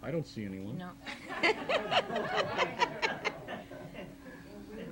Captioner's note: laughing